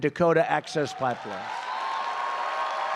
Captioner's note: applause